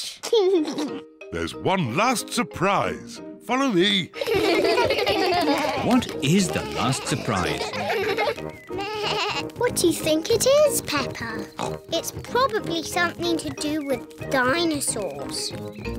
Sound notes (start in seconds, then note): 0.3 laughs; 4.1 kids laugh; 8.8 bleats; 11.5 oinks